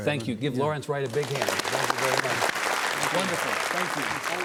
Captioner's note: audience clapping